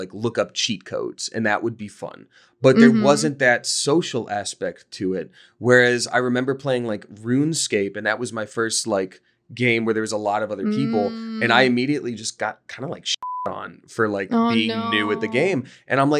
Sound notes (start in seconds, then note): 13.2 beep